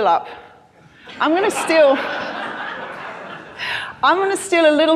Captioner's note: crowd laughing